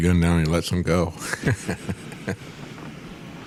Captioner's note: laughs